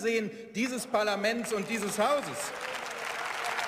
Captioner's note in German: Beifall